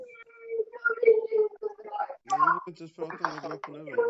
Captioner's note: crying